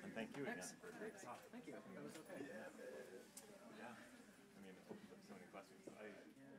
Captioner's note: background chatter